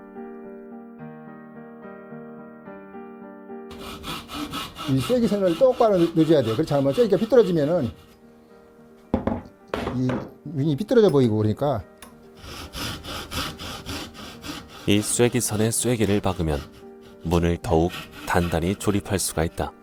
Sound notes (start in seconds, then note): 3.7 sawing sound; 9.1 tool sound; 12.3 sawing sound